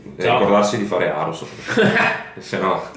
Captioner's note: evil chuckle